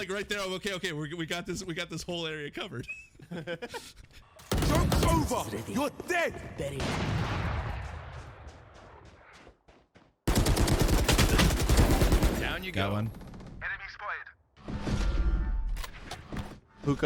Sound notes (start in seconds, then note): 2.7 both laugh; 4.4 gunshots; 6.8 loud gunshot; 8.1 footsteps; 10.2 rapid fire gunshots